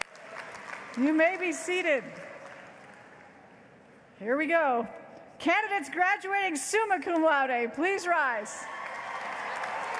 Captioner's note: applause